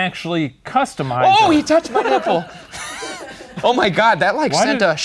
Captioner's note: laughs